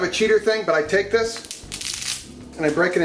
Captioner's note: spaghetti snapping